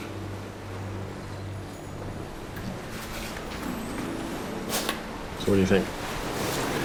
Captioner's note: ocean waves rolling in